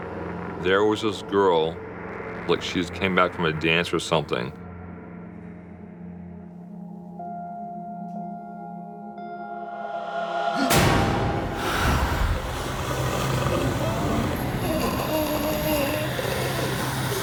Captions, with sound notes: - There was this girl, like she just came back from a dance or something. (gasps) (choking)